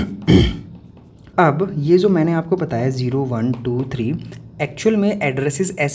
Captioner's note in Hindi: गला साफ़ करने की आवाज़; खांसने की आवाज़